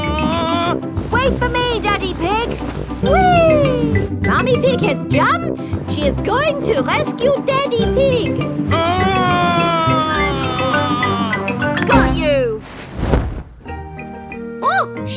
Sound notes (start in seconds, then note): 0.3 screaming; 8.8 screaming